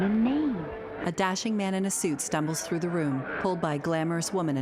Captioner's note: crowd chattering indistinctly; ominous music